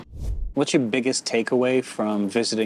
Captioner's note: air whooshing